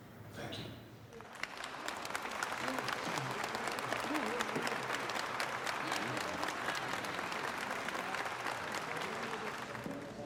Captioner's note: crowd applauding